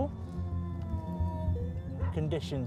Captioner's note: dog whining